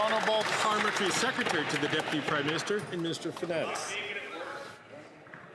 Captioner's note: some Applause